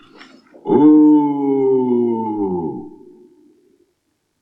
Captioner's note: cauldron Groans Again